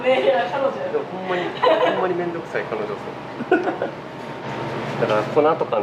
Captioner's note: laughs; laughs